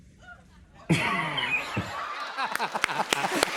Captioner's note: laughs; laughter and applause